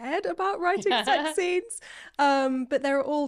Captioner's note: laughing